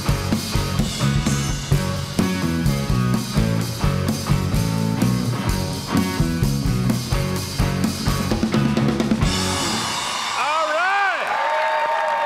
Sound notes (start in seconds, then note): 5.6 upbeat blues music continues; 9.3 audience cheering; 9.8 audience applauding